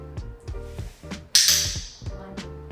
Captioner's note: clicker clicking